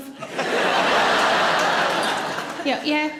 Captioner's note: audience laughs